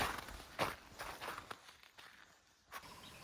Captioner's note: sounds of Swiss countryside